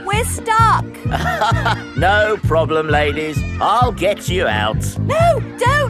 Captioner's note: chuckles